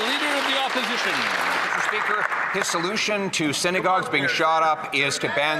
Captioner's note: some Applause